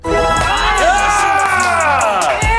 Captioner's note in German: Jubel